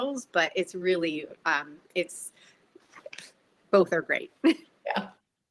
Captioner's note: chuckles